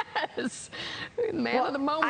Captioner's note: laughter